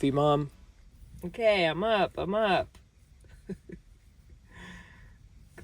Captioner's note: chuckles